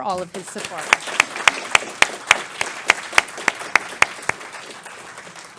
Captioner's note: applause